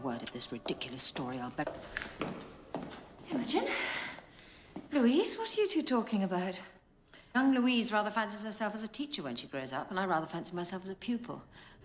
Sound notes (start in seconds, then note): 0.1 footsteps approaching